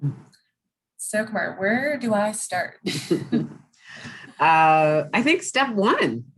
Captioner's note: both laugh